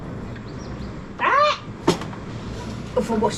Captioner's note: smacks bug